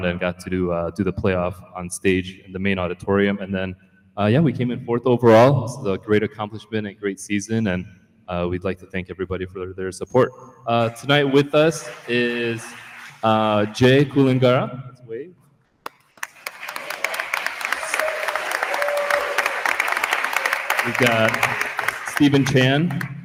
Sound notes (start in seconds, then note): 15.9 attendees applauding; 17.6 attendee cheers